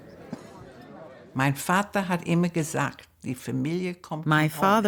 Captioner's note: speaks in German